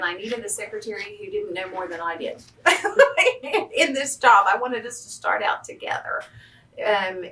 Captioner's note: laughs